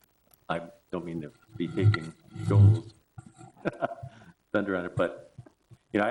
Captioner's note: chuckle